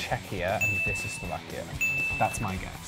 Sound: bell dings

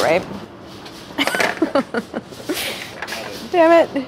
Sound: laughs

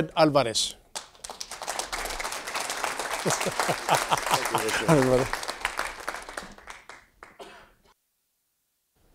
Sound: laugh; applause

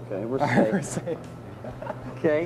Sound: laughing

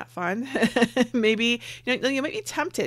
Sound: laughs

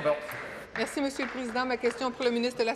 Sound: applause

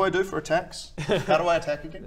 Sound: laughs

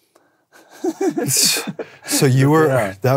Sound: laughs; sighs

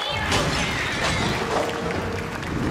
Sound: applause

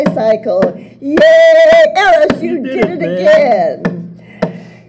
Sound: voices

